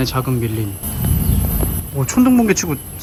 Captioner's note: clap of thunder